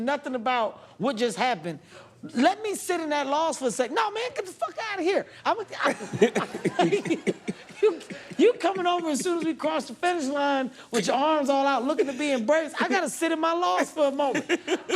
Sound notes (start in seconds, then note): 5.8 laughter